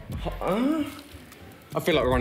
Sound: gasps

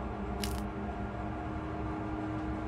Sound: crunching

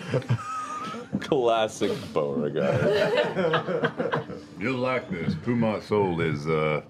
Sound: laughter

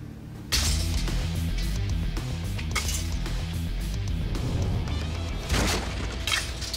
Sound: ropes snapping

